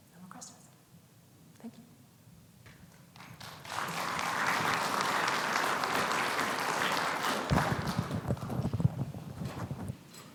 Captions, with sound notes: No more questions? Thank you. (audience clapping)